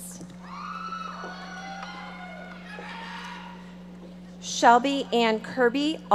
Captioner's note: audience members shouting